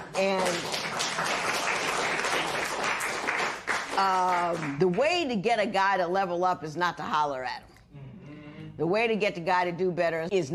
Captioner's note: applause